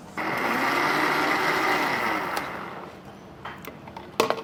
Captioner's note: blender whirring